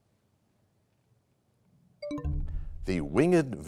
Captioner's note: bell chimes, time expires